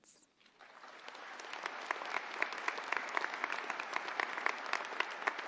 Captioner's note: audience applauding